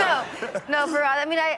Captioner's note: laughing; all laughing